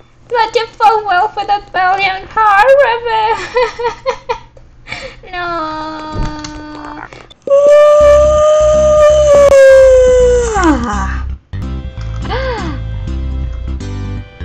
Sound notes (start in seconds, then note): 7.4 real yawn; 11.8 gasps